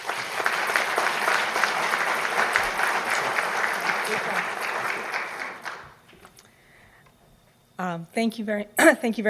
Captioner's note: applause